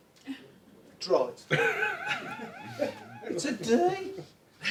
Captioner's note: both laugh